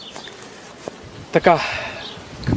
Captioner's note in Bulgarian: Въздишка